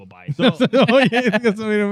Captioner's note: laughing